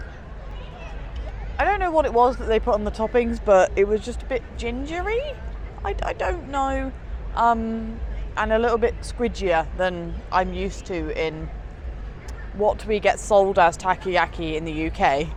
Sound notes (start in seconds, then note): none